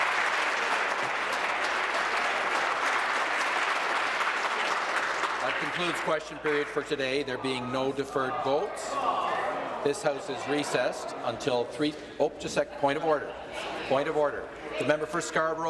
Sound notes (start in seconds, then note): 0.0 applause